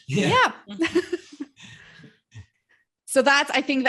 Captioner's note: laughs